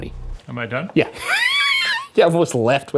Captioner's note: laughs